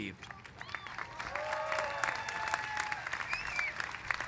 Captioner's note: applause